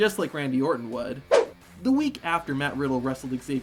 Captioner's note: rock music; screen whooshes